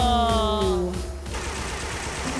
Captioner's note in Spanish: Aplausos